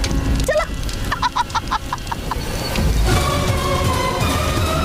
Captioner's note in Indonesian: tertawa